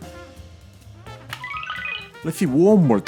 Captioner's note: bootup sound